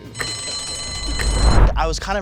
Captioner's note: bell ringing; timer clicking